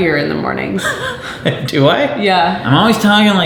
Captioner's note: laughing